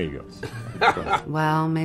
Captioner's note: all laughing